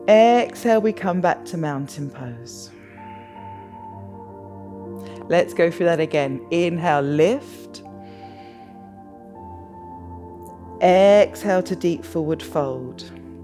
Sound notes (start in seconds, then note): 2.8 exhales; 7.9 inhales